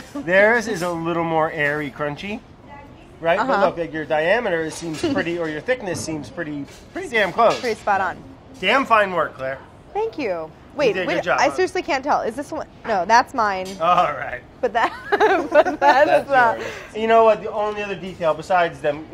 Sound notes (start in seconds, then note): 14.8 laughing